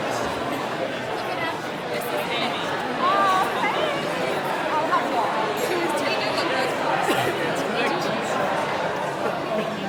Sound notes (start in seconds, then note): 3.2 talking and crockery noises